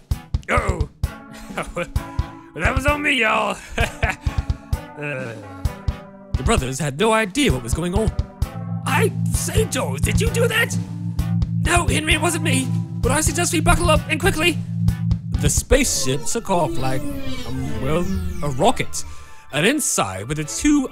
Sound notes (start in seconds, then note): 10.7 low Rumbles; 18.2 space ship blasts off